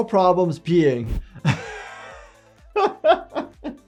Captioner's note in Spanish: reír